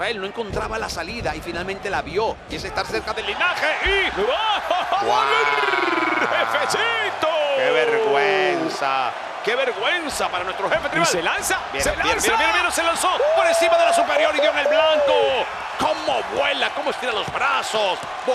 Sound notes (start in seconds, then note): 4.4 laugh